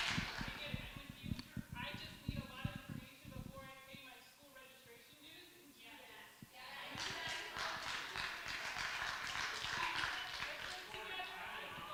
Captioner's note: applause